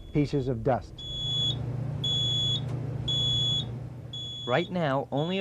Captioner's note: timer beeps